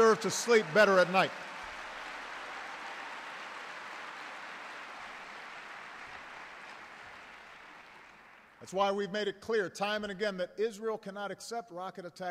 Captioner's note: applause